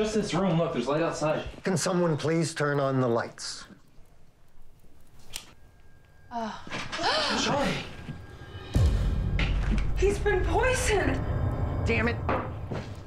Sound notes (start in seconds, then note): 7.0 women gasp; 8.7 ominous music